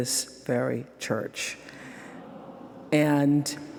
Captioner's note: crowd awing